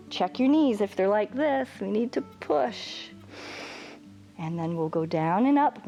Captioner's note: inhales